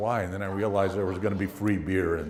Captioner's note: laugh